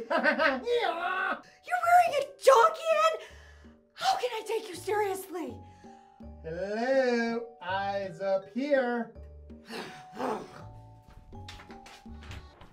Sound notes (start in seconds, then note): 0.0 I Am laughs; 9.7 Maha growls